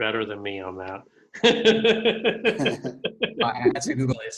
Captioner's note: laughter